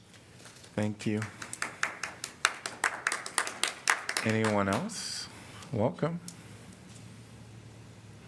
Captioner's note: applause